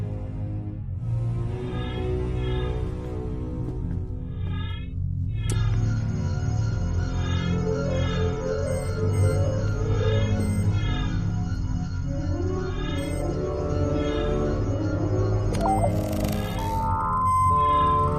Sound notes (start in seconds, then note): 5.3 device scans; 15.5 device operated